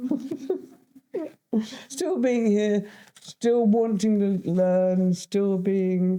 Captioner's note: laughs